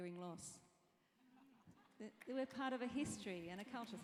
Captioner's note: laugh